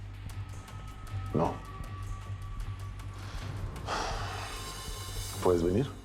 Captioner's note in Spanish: exhala